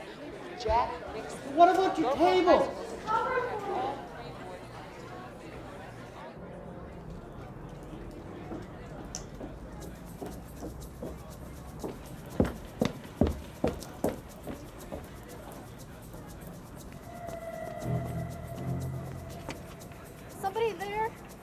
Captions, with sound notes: - with Jack Nixon. - What about your tables? - Cover for me! (group chattering) (group chattering) (footsteps tapping) (suspenseful music) Somebody there?